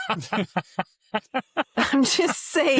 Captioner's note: laughs